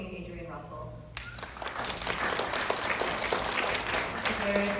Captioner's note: applause